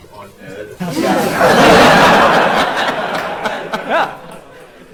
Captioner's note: laughter